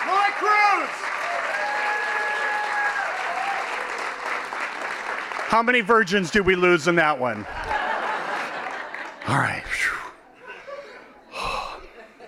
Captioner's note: applause; laughing